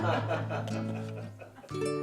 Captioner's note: laughter